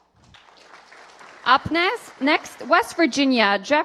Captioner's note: applause